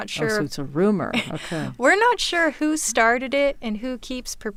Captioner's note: laughs